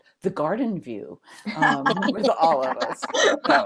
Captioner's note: laughter